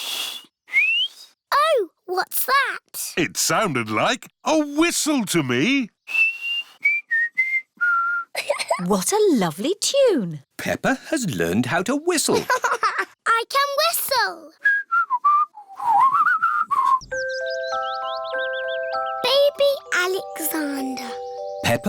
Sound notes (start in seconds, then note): 0.1 whistles; 6.0 whistles a tune; 8.3 giggles; 12.3 laughs; 14.6 whistles